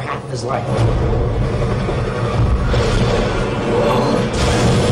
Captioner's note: helicopter sounds